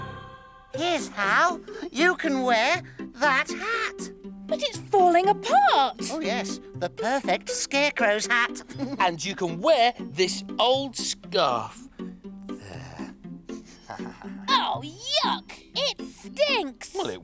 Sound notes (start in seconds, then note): 8.1 Iver laughs; 13.7 Tula sniffs